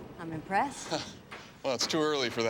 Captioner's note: chuckles